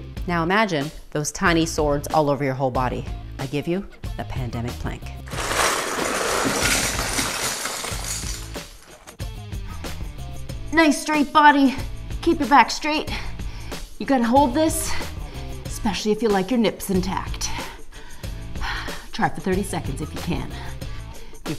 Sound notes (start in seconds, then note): 5.2 crashing LEGOS